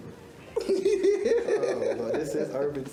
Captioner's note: giggles